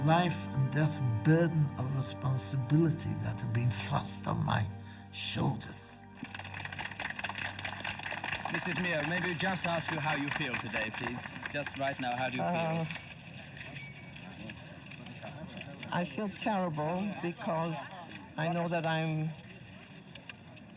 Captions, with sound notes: "the life and death burden of responsibility "that had been thrust on my shoulders." (crowd applauding) - Mrs. Meir, may we just ask you how you feel today, please? Just right now, how do you feel? - I feel terrible because I know that I